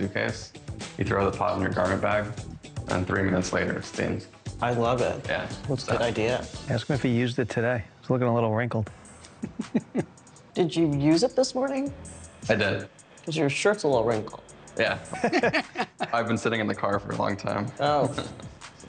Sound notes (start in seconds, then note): 9.2 laughs; 15.0 laughing